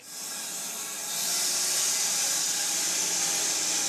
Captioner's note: saw whirring